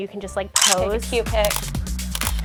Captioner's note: upbeat music; snaps